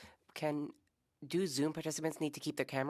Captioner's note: speaking French